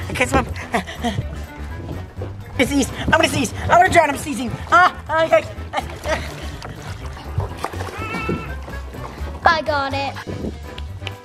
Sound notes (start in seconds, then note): 0.5 gasps; 5.9 exclaims